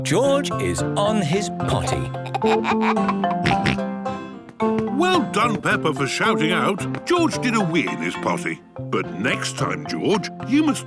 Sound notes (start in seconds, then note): 1.9 giggles, snorts